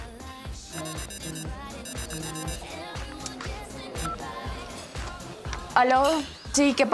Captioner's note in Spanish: Suena el celular